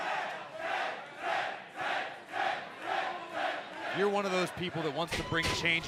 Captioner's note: fans chanting